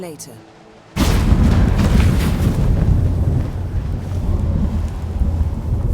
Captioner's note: portal rumbles